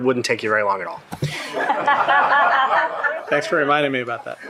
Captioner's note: shared laughing